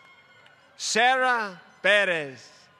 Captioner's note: applause